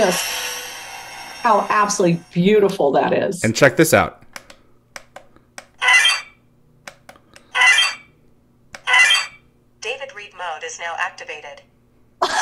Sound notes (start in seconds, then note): 8.8 device sound